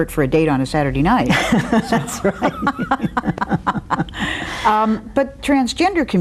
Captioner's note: laughs